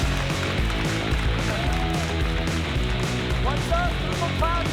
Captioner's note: cheering, applause; rock music